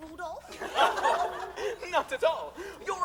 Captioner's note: laughter